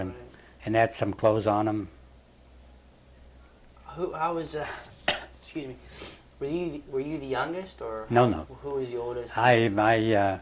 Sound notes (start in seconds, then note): 4.6 coughs